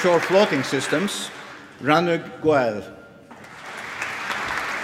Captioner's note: applause